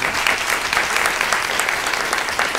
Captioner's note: applause